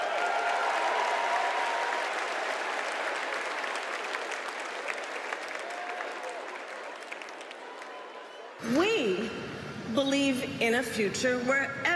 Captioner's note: cheers and applause